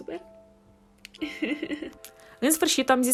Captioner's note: laughs so she doesn't cry